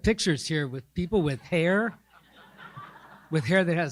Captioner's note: audience laughing